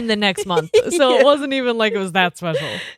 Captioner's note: laughing